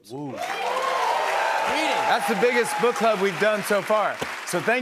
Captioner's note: cheers and applause